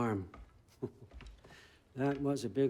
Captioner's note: laugh